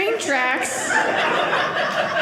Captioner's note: audience laughing